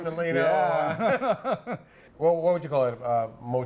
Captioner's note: both men laugh